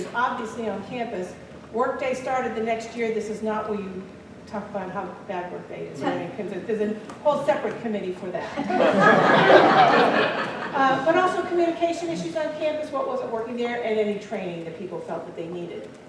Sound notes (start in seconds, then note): 8.4 laughter